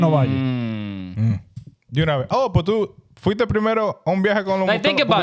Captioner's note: speaking In Foreign Language